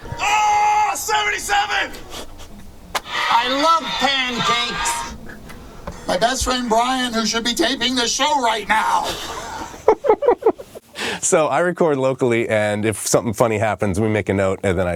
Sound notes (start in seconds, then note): 9.0 both laughing